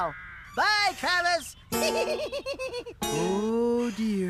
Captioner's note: giggling